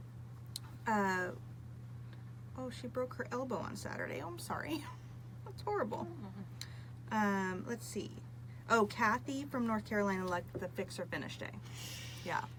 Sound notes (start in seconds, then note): 6.2 laughs